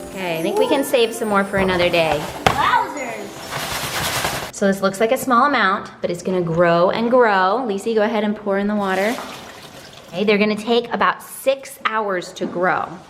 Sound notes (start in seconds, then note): 3.5 beads thwack